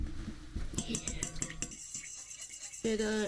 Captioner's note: tinkling